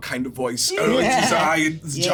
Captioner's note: laughs